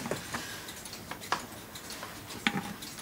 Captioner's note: regular ticking